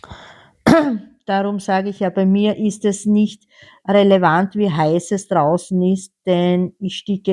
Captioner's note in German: räuspern